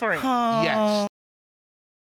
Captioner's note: sighs